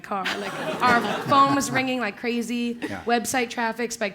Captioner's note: laugh